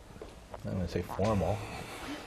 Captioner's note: laugh